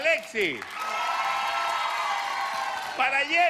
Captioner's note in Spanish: aplausos